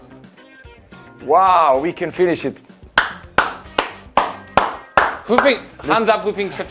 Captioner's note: claps